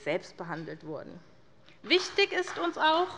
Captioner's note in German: Beifall bei der SPD